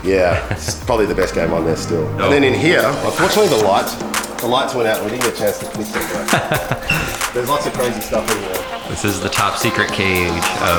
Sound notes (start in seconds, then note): 5.8 laughs